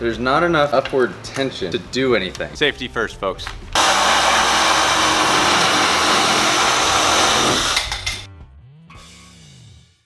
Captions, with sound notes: There's not enough upward tension to do anything. Safety first folks. (saw buzzing)